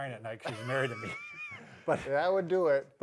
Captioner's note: both laugh